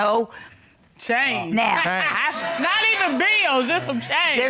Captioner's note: laughs